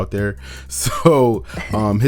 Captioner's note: both laughing